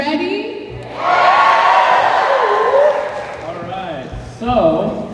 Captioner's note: cheers